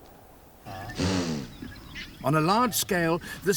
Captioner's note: snorts